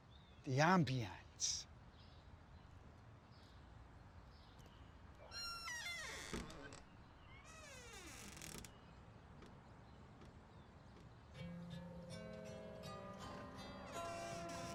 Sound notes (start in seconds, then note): 5.4 gate creaks; 11.4 slow ominous music